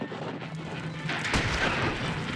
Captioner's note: guns firing